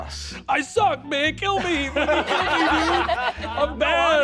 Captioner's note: players laughing